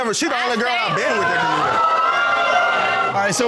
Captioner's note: audience exclaims